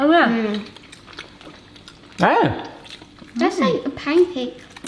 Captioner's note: family chews